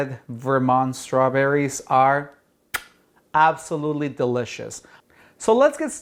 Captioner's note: kisses